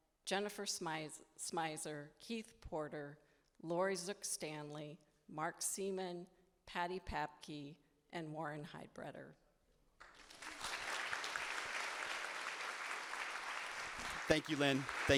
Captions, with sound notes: Jennifer Smyser, Keith Porter, Lori Zook-Stanley, Mark Seaman, Patty Papke, and Warren Heidbreder. (audience applauding) - Thank you, Lynne.